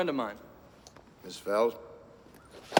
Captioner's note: clicking heels